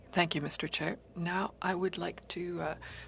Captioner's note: speaking French